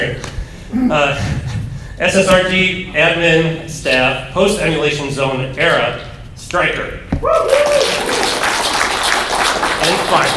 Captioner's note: applause